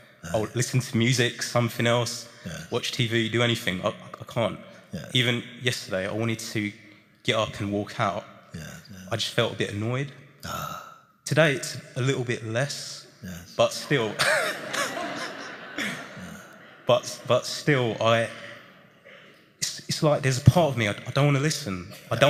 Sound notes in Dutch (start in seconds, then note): 13.8 gelach